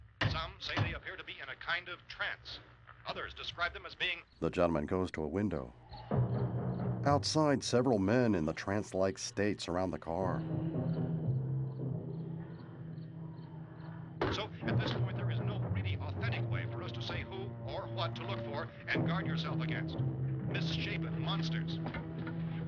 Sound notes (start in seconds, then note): 4.0 crickets chirping